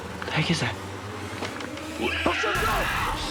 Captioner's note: creature screeching; screeching